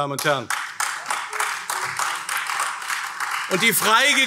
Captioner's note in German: Beifall AfD